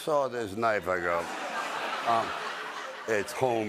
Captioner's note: laughter